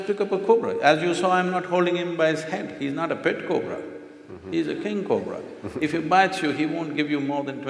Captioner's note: few laugh